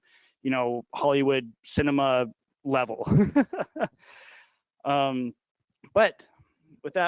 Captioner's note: laughing